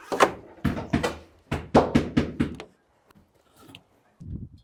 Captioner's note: hammer knocking